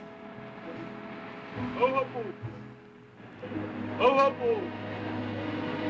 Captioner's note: man shouting in foreign language